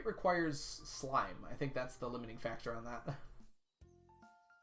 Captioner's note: chuckles